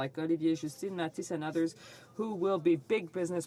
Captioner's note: speaking French